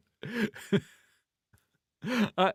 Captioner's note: laughing